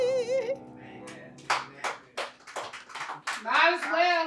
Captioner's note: applause